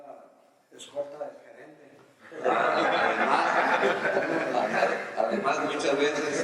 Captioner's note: laughs